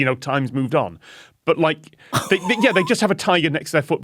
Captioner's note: wheezes